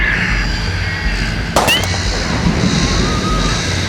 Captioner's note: gunshot